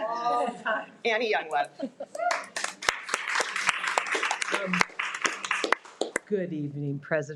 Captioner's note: participants laughs; participants applauding